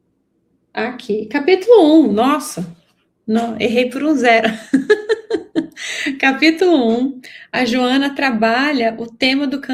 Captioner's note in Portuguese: risadas